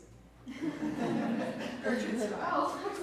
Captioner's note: audience laughs